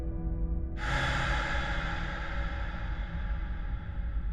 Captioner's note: deep exhale